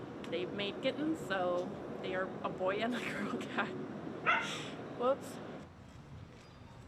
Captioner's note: laughs